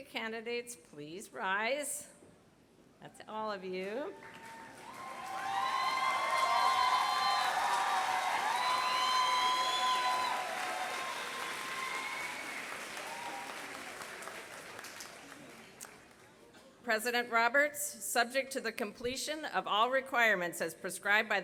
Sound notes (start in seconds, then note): 4.1 applause